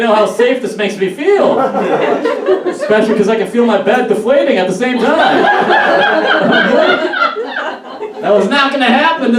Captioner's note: laughs